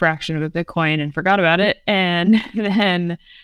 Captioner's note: laughs